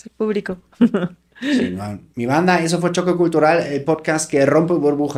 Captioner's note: laughs